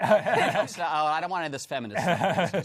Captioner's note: laughter